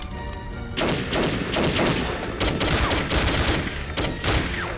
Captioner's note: gunfire clattering